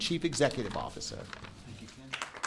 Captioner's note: applause